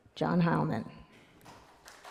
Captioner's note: cheers & applause